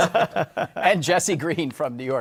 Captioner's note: laughter